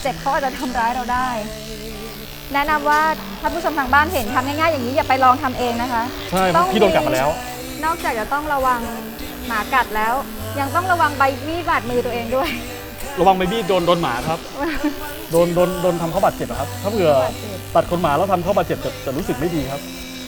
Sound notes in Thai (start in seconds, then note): 14.7 หัวเราะ